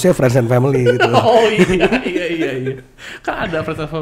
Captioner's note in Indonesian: ketawa